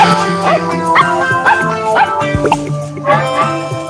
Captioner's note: bright music; dog parking